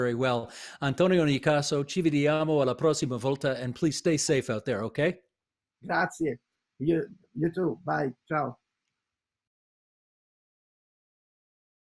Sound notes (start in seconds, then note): 2.8 speaking in italian